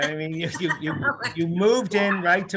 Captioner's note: both laughing